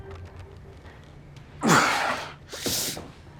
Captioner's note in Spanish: Gruñe